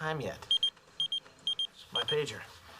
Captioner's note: pager beeps